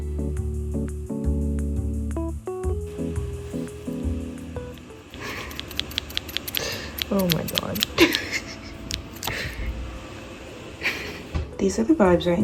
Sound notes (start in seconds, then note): 5.1 scissors repeatedly cutting; 10.3 laughing